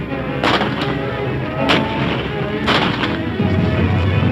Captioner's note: guns firing